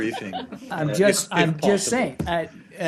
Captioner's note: laughter